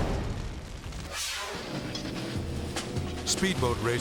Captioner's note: air whooshes